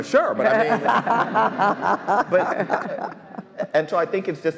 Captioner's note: all laughs